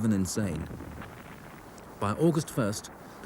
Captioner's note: shell booms